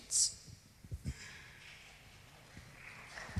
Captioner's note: applause